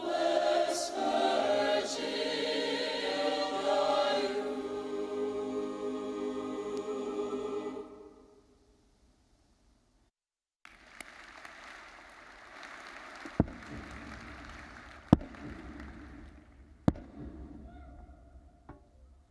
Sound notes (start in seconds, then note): 10.7 audience applauding; 13.5 mace bangs